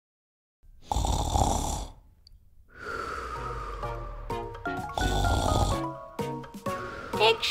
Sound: snoring

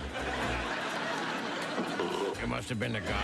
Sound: burp

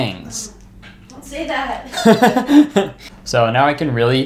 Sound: laughing

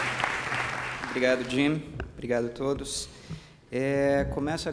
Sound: speaking portuguese

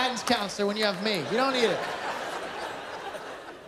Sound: laughter

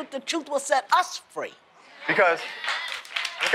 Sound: applause

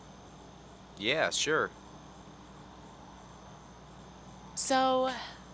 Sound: inhales

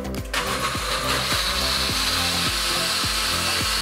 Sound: blender buzzing

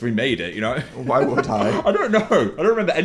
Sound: laughs

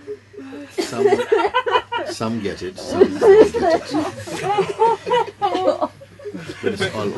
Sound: laughter

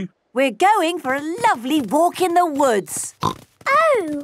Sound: snorting

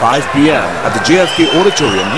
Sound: wild applause and cheering for 22 seconds

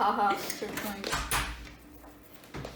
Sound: the door opens

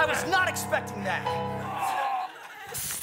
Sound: groans

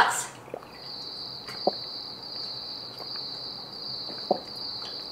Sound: crickets chirping

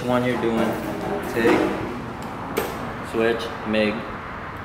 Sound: clicks

